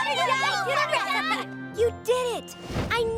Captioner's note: all cheering